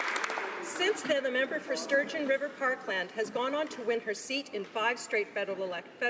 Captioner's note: applause